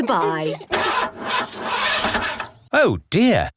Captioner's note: engine sputtering